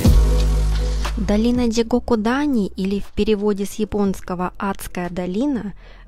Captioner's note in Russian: закадровый голос